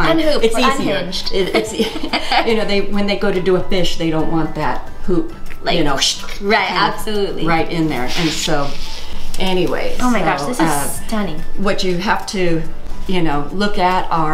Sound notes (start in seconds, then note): 5.5 whooshing sound